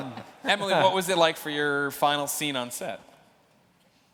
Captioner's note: laughter